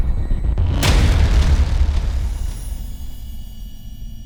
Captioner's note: hammer strike